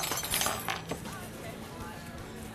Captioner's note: clanging of utensils